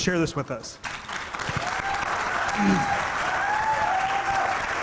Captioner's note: audience clapping